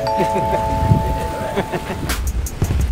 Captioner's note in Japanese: アナウンス音